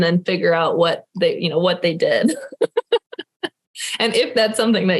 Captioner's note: laughing